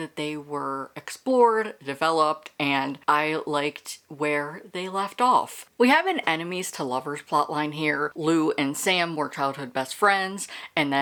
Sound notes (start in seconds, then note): none